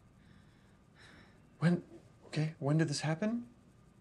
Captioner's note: Clive sighs